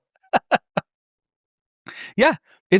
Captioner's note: laughing